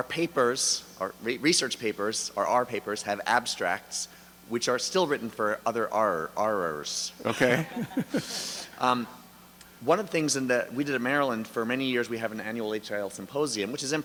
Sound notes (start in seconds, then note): 7.2 laughter; 10.0 voiceover